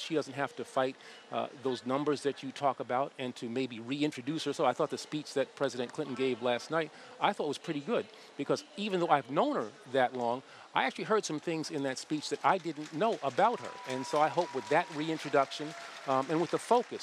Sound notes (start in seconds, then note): 6.7 applause